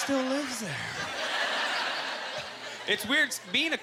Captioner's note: audience laughter